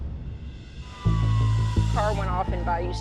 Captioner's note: suspenseful music; sirens wailing